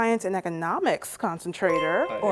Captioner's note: chime